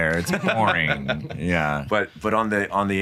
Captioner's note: chuckles